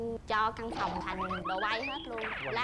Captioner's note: laugh